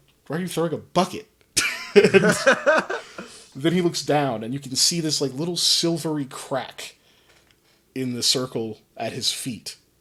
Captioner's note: laughs